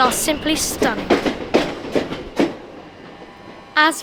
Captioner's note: train departing